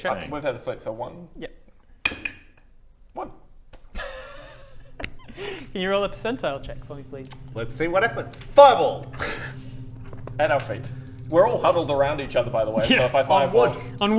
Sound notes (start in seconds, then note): 3.9 excited giggle